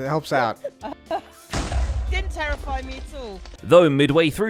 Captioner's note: giggles; TNT booms